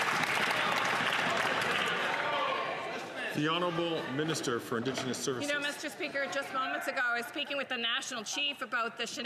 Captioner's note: some Applause